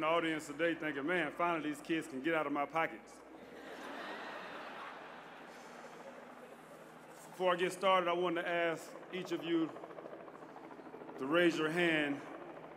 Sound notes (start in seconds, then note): 3.3 laughter